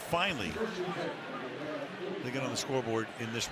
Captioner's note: pa announcement